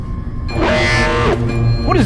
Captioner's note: alarm blaring